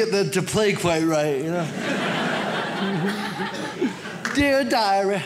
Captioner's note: audience laughs